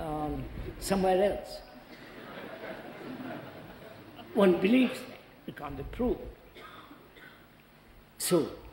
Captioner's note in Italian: risate